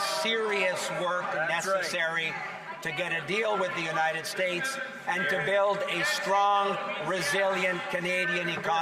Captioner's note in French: voix de l'interprète